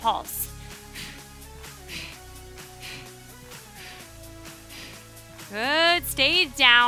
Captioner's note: upbeat music continues; breathing deeply